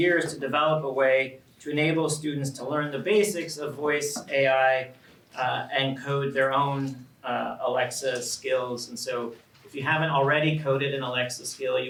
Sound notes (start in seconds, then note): none